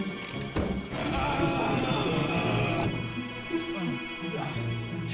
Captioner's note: beastly growling